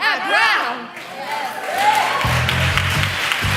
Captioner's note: applause